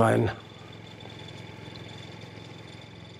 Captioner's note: rattling